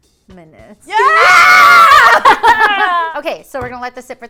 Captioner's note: scream